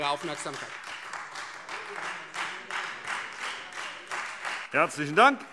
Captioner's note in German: Beifall Freie Demokraten